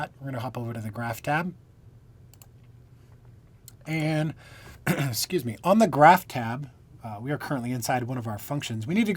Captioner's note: coughing